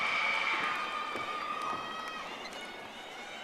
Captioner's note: audience applauding